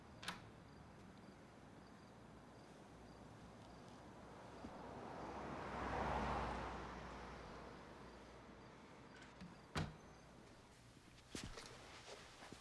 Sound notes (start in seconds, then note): 0.1 door clicks; 5.1 traffic rumbling; 9.8 door thuds